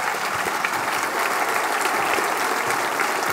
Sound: applause

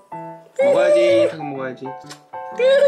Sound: horse crying

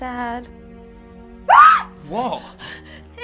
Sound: scream

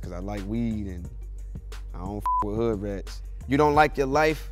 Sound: beep

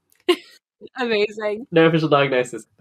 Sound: laughs

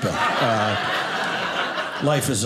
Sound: audience laughing

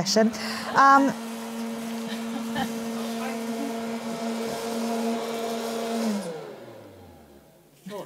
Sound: noisy motor

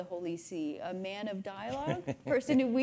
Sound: laughing

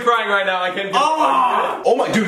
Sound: inarticulate cry of pain

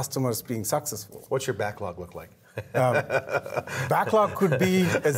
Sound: laughing

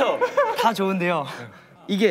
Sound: haha

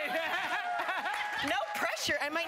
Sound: cheering

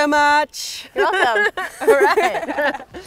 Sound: laughs

